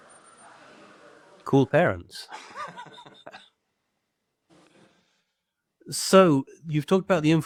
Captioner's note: laughing